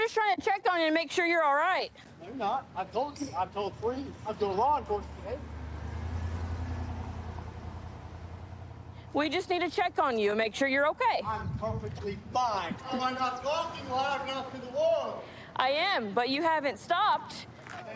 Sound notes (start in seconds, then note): 6.1 vehicle driving